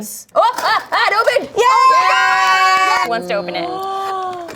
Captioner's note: all shouting